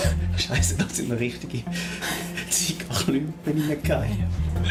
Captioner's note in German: Lachend